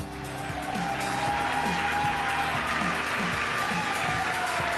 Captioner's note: cheering